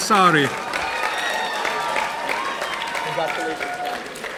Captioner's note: audience applauding